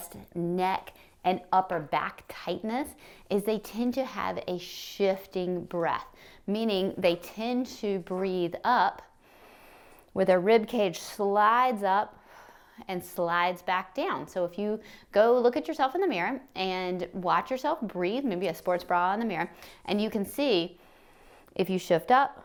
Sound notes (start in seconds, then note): 9.2 inhales; 12.1 exhales; 20.8 inhales